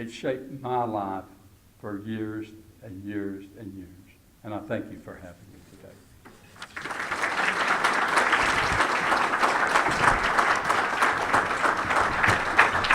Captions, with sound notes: It shaped my life for years and years and years, and I thank you for having me today. (applause)